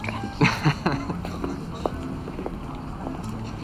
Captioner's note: Jake laughs